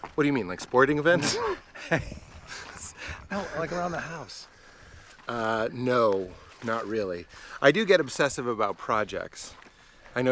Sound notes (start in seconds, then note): 1.1 laughs